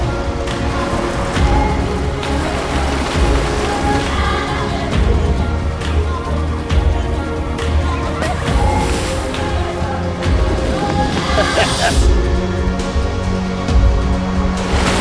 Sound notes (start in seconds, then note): 11.1 laughing; 14.8 underwater sounds